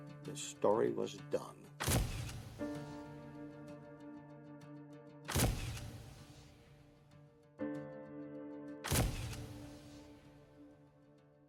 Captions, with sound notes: The story was done. (camera flashes) (dramatic music)